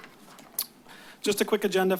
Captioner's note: clicks tongue